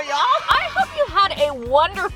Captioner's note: cheering